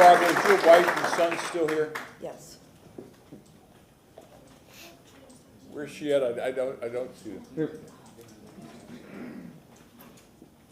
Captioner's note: applause